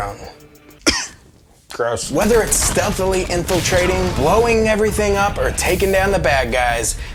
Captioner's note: cough